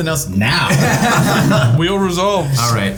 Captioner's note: players laughing